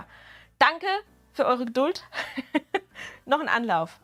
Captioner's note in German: Gelächter